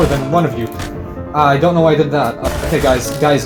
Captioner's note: shoots explosive barrel